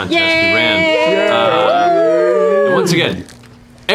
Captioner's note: cheering